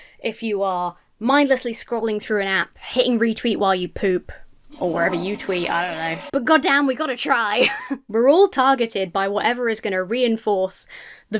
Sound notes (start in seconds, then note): 4.6 toilet flushes; 7.6 laughs